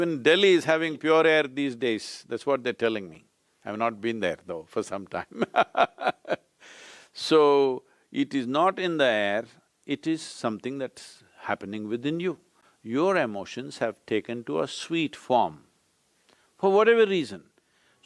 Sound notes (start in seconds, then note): 5.3 laughs